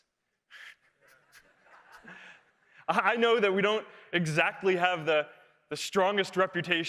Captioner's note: laugh